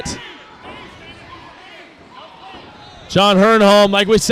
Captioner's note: crowd noise